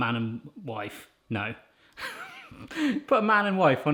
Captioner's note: laughs